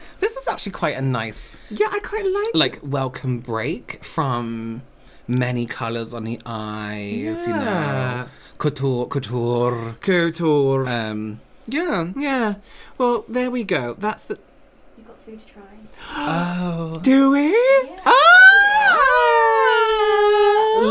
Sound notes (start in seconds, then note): 16.0 gasps of Excitment